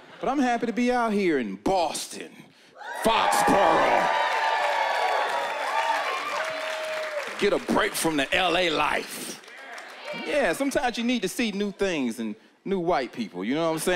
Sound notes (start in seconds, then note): 5.5 cheering and applause